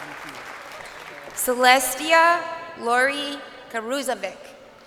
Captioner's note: crowd cheering